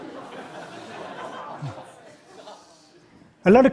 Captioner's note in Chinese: 笑聲